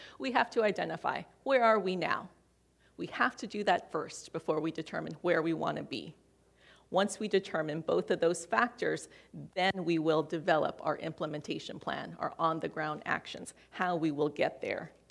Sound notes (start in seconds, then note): none